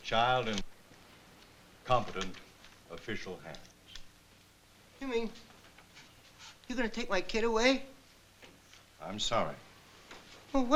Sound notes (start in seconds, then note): none